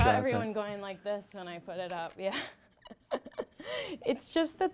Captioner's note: laughing